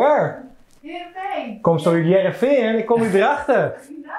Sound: speaking Frisian

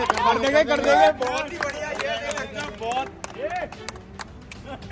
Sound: cheering

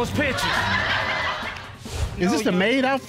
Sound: laughter

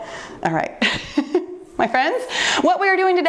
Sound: chuckles

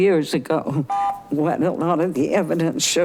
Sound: buzzer chiming

